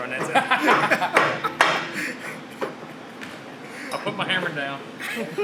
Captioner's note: laughs loudly